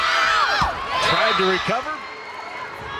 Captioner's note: crowd cheering; players yelling